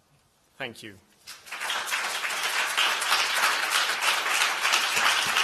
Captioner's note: applause